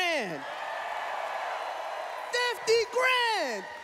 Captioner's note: cheering